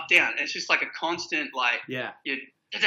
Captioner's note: imitates wheels popping